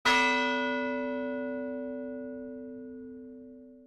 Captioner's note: bell chimes